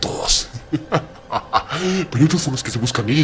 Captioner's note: laugh